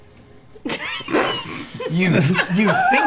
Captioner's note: laughter